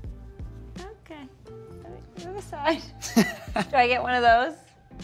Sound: Brooklyn laughs

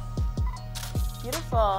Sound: camera clicking

